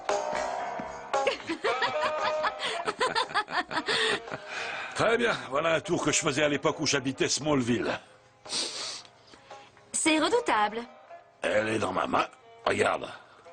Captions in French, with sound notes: *Hahahahaha* "Très bien, voilà un tour que je faisait à l'époque où j'habitait Smallville." *sniff* "C'est redoutable." "Elle est dans ma main. Regarde."